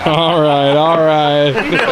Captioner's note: laughing